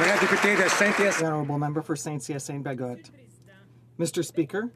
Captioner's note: some Applause